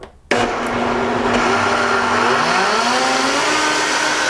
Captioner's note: whirring